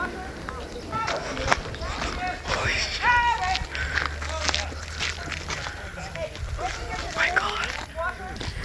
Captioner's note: shouting and rustling noises from a distance